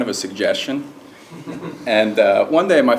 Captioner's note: laugh